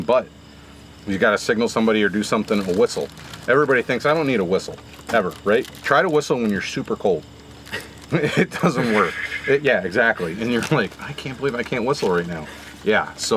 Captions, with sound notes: But we've go to signal somebody or do something, a whistle. Everybody thinks, "I don't need a whistle ever." Try to whistle when you're super cold. (both laugh) It doesn't work. Yeah, exactly. And you're like, "I can't believe I can't whistle right now."